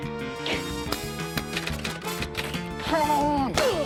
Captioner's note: grunts; keys clack; grunts